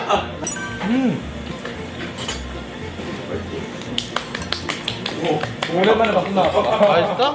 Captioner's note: claps from how good the food is